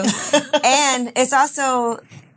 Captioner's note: ladies chuckling